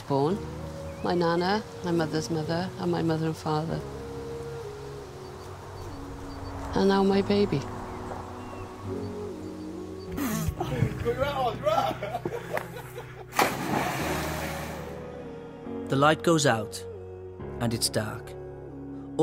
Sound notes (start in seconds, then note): 10.6 laughter and shouting; 13.3 big splash